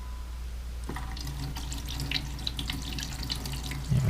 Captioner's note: water pouring